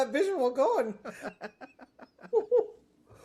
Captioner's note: laughing